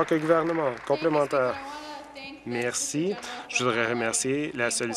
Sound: applause

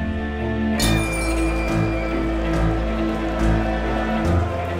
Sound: glass tinkling

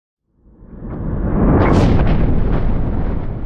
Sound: rumble

